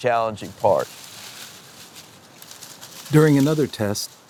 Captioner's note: rustling